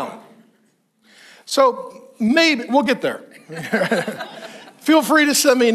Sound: all chuckles

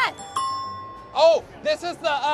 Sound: ding

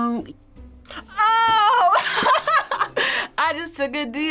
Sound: laughs

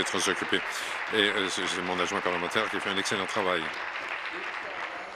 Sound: applause

